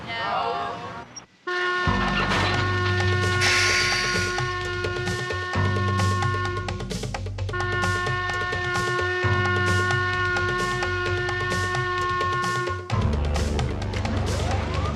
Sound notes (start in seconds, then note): 1.6 whistle blowing; 4.2 up-tempo music